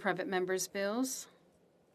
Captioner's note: speaking FRENCH